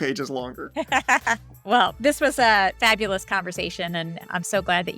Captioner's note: laughter